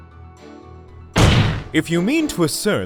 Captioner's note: slam